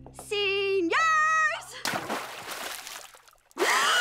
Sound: splashing

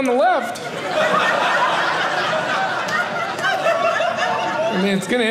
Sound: audience laughing

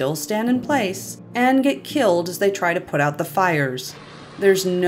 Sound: intense spraying

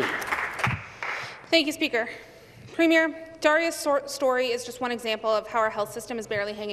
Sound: some Applause

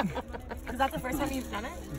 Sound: group laughs

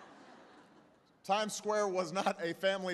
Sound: laughter

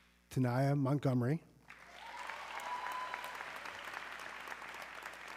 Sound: audience cheering

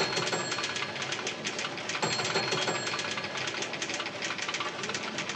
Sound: bell Rings

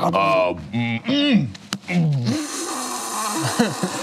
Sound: grunts

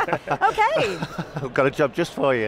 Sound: chuckling

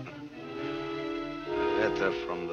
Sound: laughing

